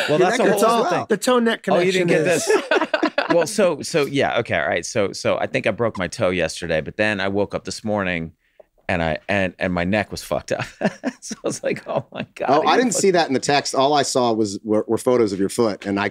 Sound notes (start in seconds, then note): 0.0 all laughing; 1.8 group laughs; 10.6 Glenn chuckles